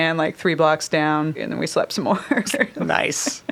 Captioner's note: chuckles